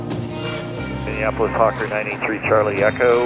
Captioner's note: voices Over Radio